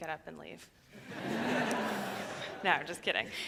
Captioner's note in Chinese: 笑聲